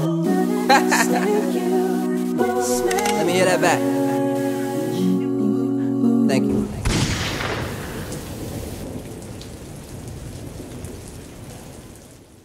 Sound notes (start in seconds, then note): 0.7 laughter; 6.8 gun shot